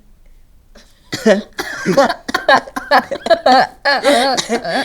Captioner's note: laughs; both laugh